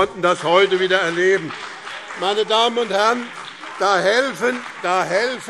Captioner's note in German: Beifall BÜNDNIS 90/DIE GRÜNEN und vereinzelt CDU